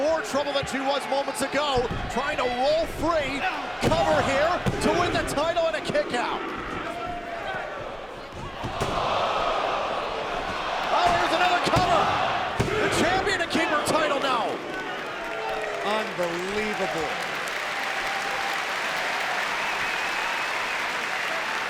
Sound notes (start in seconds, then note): 8.7 crowd gasps; 17.6 crowd applauds and whistles